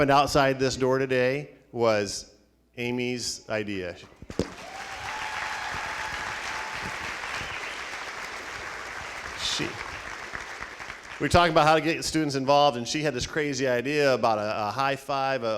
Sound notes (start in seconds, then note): 4.4 applauding; 4.4 cheering